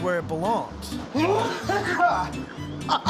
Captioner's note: coughing hard; laughs